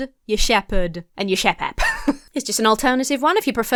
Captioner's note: laughs